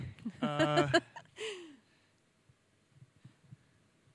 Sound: laughs

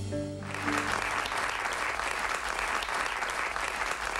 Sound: applause

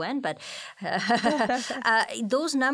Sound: both laughing

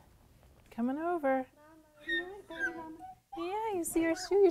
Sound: baby squeals

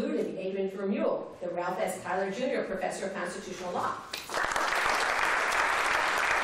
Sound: applause

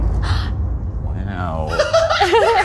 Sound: gasps; laughing

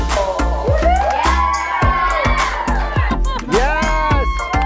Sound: woman cheering; kids cheering

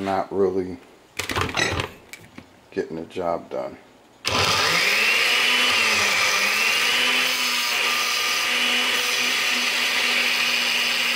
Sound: sound of blender

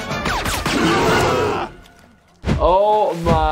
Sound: Stan screams

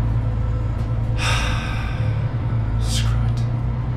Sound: long exhale

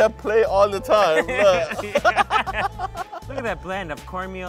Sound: both laughing

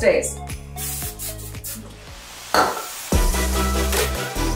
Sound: sprying sound; energetic music

